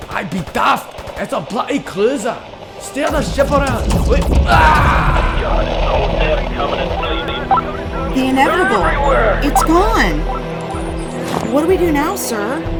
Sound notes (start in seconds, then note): 2.9 radio chatter